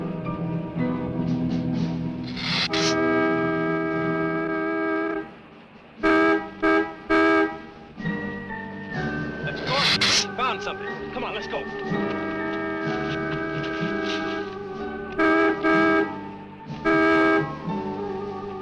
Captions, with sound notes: (car honking) That's Gordy, maybe they've found something! Come on, let's go! (dramatic music) (horn honking)